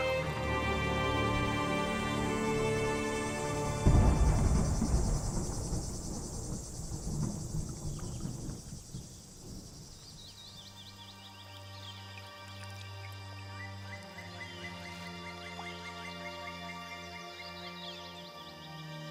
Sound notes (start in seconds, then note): 0.0 calm music continues; 7.4 thunder rumbling; 12.9 birds chirping